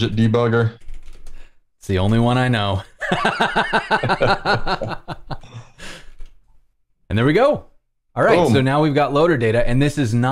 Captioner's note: laughter